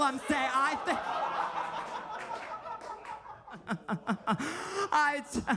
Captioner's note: audience laughing